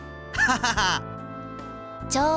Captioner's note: laugh